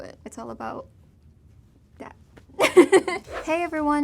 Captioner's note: laughs